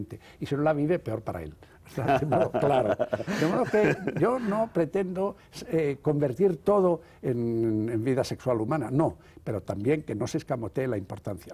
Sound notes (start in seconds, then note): 5.0 ríe